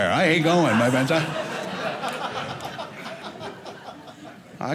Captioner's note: audience laughing